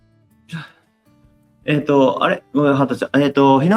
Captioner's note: laughs